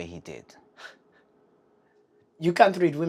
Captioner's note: Dawit huffs